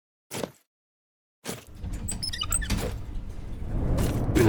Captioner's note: cart wheels squeaking, elevator doors closing